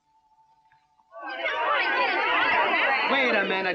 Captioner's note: angry chattering